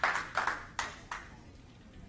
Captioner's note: applause